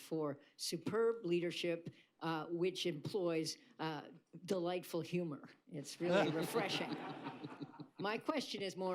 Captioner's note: laughter